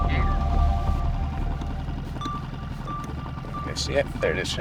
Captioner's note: boat motor hums